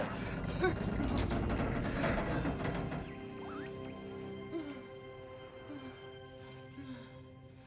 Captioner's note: ship creaking; Faraday panting